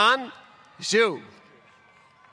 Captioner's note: applause